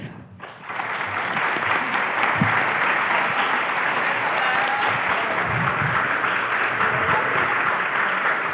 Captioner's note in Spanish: Aplausos